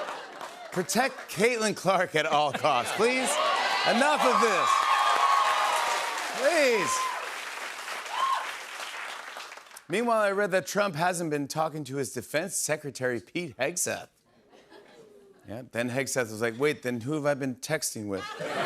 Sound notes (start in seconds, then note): 2.7 cheers and applause